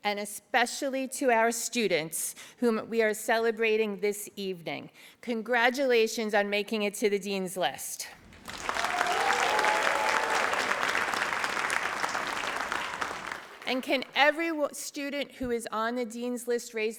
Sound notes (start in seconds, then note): 8.2 audience applauds